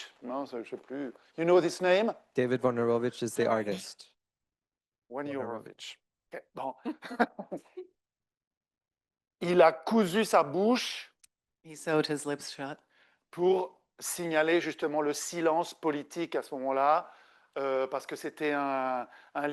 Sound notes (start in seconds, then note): 6.6 pronounces names and laughs; 14.8 speaking French